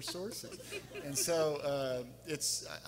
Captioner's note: everyone laughing